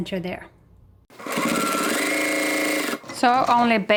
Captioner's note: sewing machine whirs